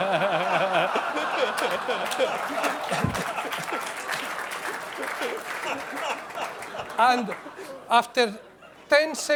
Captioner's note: laughter